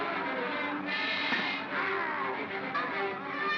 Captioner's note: suspenseful music; clunk; suspenseful music; boy screams